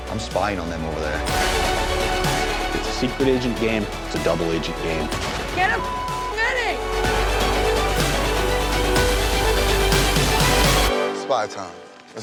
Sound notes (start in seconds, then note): 5.7 beep